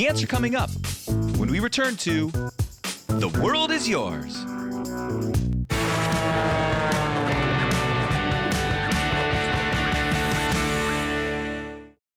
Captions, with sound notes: The answer coming up when we return to The World is Yours. (rousing music) (plane engine buzzing)